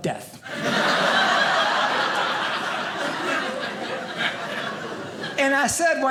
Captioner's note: audience laughing